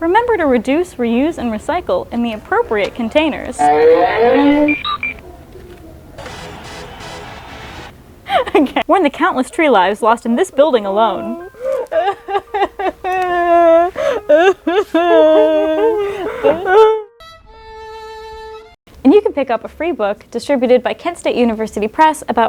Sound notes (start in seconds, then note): 10.8 sobbing; 15.1 more sobbing